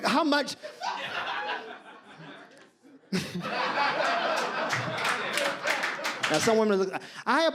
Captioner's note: audience laughs